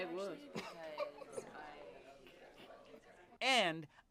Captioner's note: laughs